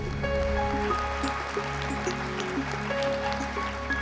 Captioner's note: applause